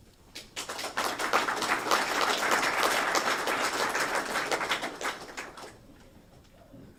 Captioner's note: applause